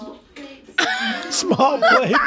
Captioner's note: they laugh